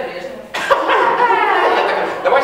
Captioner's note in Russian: Снова смех